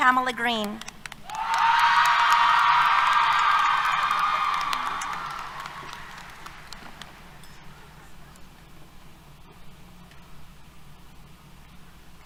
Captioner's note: applause, Cheers